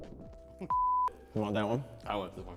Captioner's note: beep